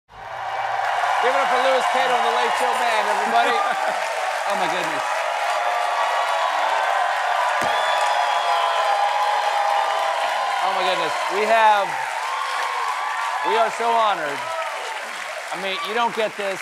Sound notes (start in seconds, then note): 1.0 cheers and applause; 6.3 cheering